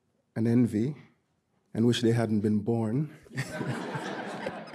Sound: audience laughing; laughs

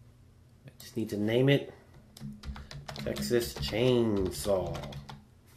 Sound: typing

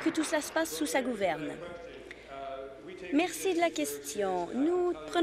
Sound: applause

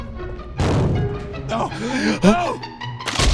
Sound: super inhale

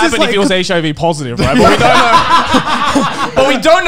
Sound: men laughing

